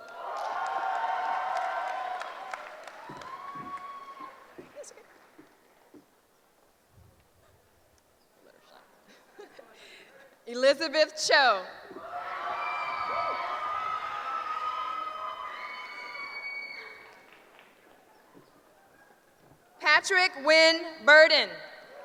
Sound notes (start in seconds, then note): 0.0 cheering; 12.0 cheering; 21.8 cheering